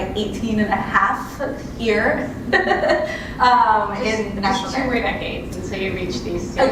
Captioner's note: laugh